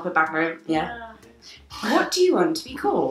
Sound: none

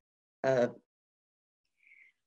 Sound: audio drop

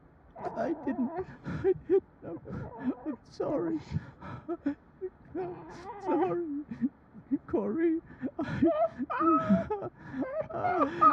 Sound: whimpers

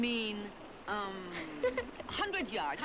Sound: Jens laughs

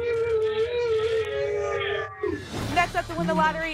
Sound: cheering

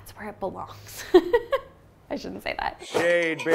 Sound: laughing

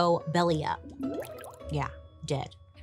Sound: water bubbles

